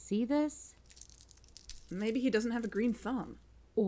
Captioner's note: dead leaf crackles